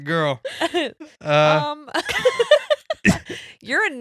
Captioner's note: laughing